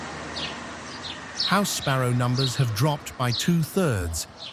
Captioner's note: birds chirping